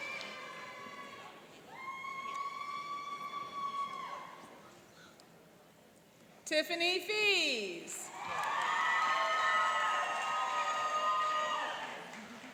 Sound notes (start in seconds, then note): 8.0 cheering and applauding